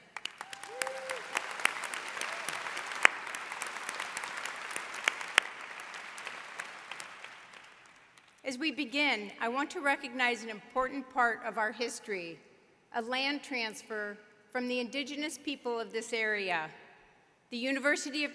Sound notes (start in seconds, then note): 4.5 applause